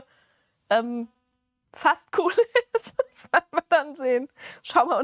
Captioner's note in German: gelächter